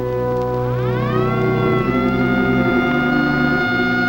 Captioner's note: siren wailing